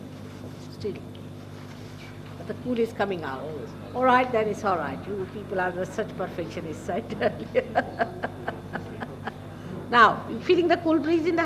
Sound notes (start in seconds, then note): 6.9 shri mataji laughs